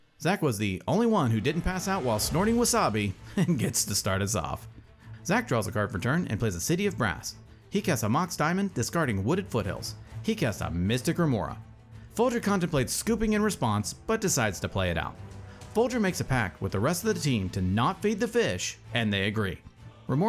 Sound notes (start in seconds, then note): 3.3 laughs